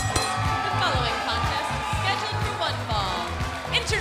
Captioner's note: bell ringing